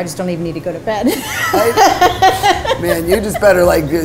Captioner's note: laughing